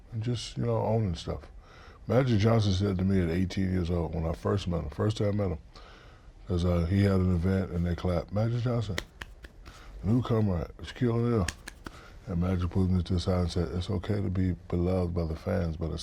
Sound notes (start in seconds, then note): 8.9 hands clapping; 11.5 hands clapping